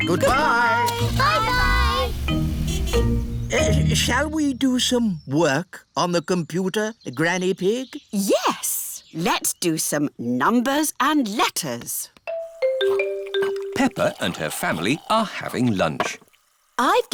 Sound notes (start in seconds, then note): 2.4 horn honks